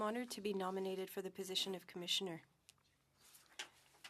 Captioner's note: speaking French